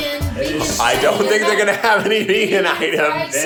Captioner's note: laughing